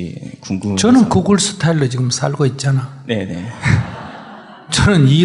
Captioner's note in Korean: 질문자 / 청중 웃음